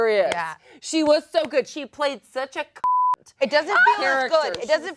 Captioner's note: beeps